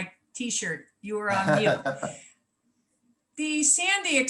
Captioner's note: laughs